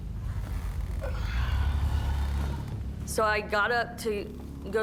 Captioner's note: sighs